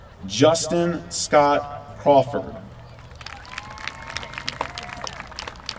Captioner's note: applause